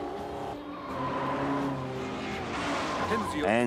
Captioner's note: tires screeching